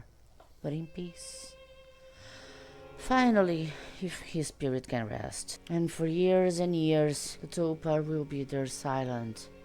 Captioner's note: sighs